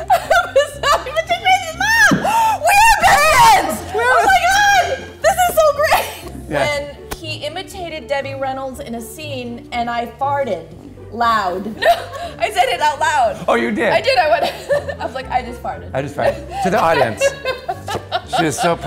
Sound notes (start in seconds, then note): 0.0 laughs; 2.2 gasps; 6.4 laughs; 11.7 laughs; 16.2 laughs